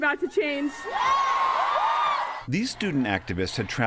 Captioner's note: cheering and applause